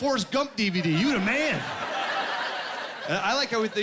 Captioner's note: laughing